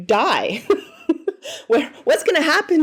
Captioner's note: laughing